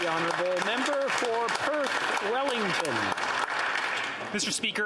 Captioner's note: applause